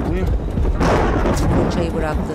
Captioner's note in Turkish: Gök gürültüsü sesi